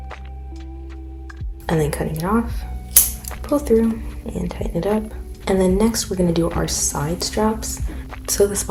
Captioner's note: scissors cut